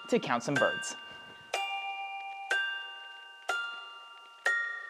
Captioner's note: bells chime